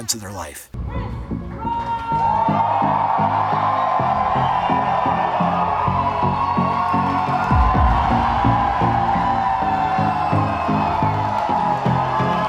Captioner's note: crowd Cheering